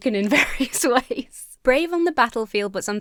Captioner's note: laughs